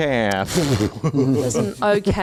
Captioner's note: laughing